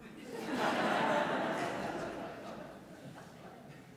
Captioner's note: audience laughs